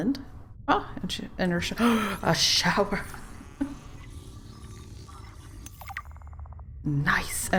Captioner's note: gasp